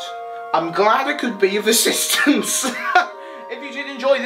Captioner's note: laughs